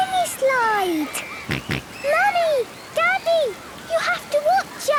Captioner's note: George snorts